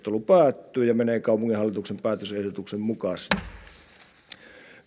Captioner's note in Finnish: kopauttaa nuijaa